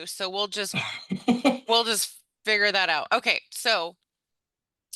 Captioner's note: laughs